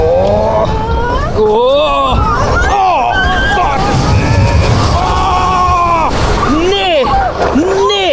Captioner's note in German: schreien